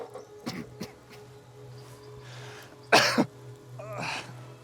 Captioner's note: bartram coughs